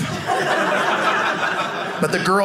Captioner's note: audience laughing